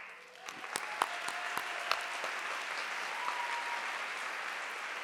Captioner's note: audience applauding